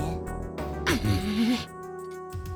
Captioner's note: seething